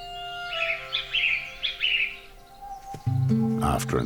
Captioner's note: calls